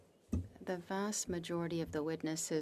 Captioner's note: speaking French